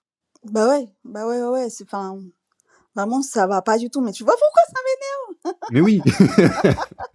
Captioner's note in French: rires